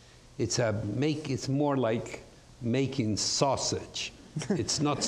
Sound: audience laughs

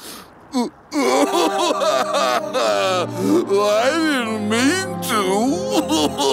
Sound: crying; crying

